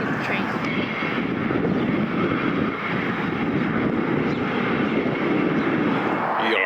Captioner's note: wind rumbling